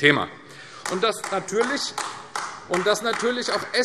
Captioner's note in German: Beifall AfD